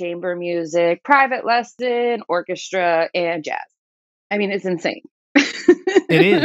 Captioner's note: laughter